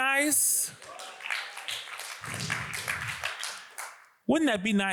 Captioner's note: audience applauds